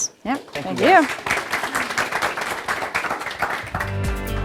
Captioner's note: applause; upbeat music